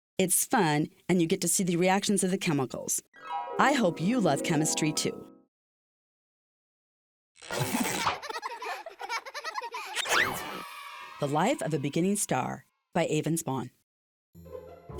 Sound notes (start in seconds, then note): 7.7 children laughing